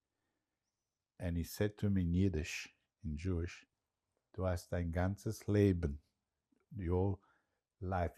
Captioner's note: yiddish